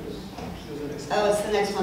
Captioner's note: people chattering